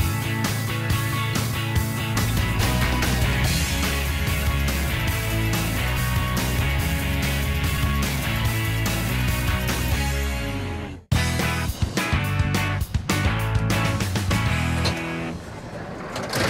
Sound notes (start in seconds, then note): none